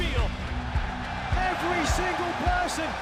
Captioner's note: crowd cheering